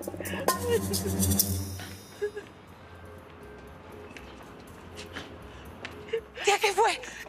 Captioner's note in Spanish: Sollozos